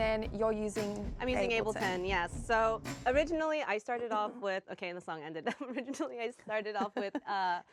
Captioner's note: laughs